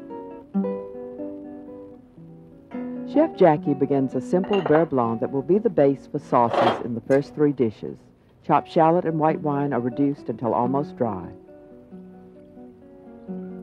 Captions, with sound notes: - [Voiceover] Chef Jackie begins a simple beurre blanc that will be the base for sauces in the first three dishes. Chopped shallot and white wine are reduced until almost dry.